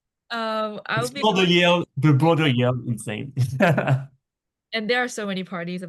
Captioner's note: laughs